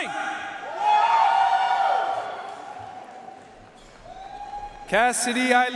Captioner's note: audience cheering and applauding